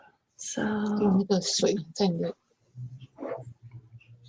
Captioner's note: speaking Chinese